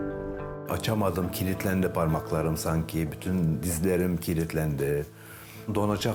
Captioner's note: pensive music; speaks in foreign language